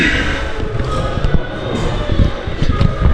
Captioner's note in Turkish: boğazını temizler